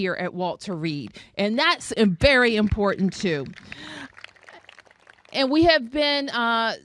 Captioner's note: applause